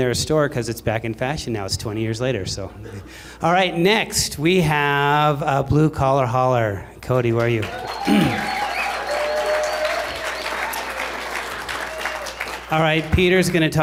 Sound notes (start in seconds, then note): 2.8 laughter; 7.4 applause